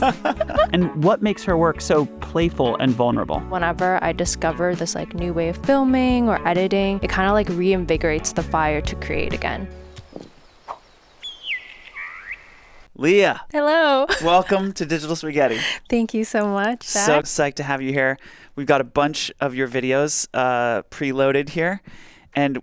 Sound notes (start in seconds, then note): 9.6 bird chirping